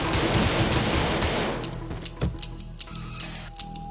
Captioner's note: gunfire; gun clicking